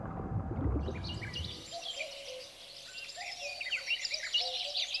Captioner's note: birds chirping